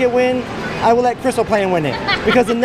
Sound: laughs

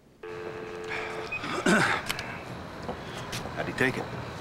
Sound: clears Throat

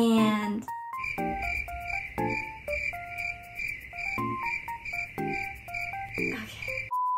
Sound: more crickey noises

